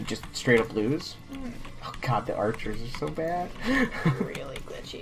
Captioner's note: chuckles